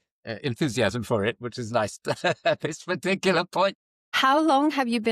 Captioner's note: laughs